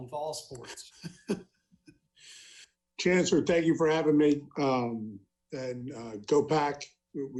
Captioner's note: laughs